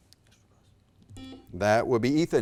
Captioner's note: button beeping